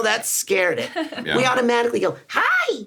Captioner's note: Sarah laughs